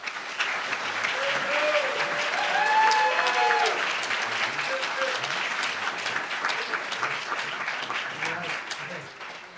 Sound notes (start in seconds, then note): 0.7 applauds; 2.6 cheers